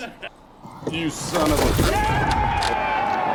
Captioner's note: lever clanking